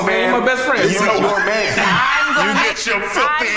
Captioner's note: group laughs